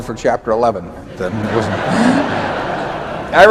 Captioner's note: laughter